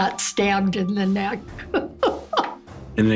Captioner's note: laughs